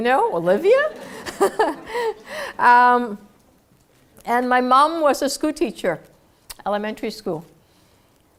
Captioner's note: laugh